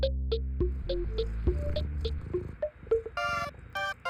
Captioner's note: Cauliflower purring